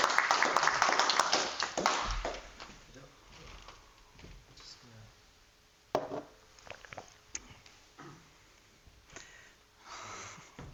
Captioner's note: audience applauds